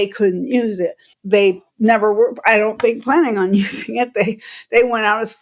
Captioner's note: laughter